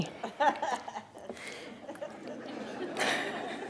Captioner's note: laughter